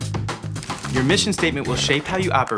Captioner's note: paper crumpling